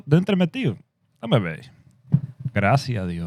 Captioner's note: speaking Spanish